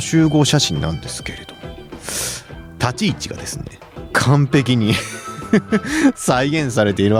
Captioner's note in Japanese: 鼻息; 笑い